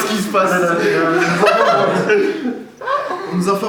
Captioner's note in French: rires